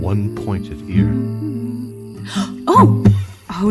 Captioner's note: gasp